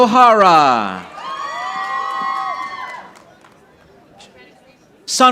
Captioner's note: audience applauding